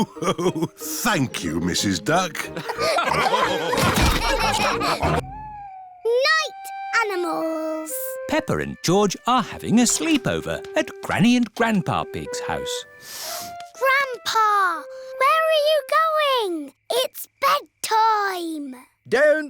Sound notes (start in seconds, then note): 2.5 laughter